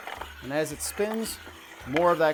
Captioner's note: mechanisms jostling